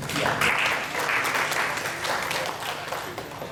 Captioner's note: applause